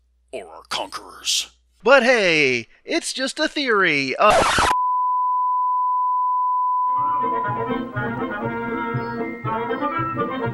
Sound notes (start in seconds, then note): 4.2 record scratch, test pattern tone